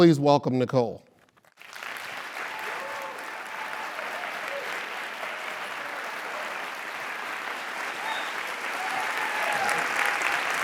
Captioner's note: applause; laugh